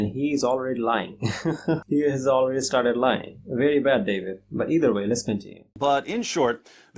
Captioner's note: laughs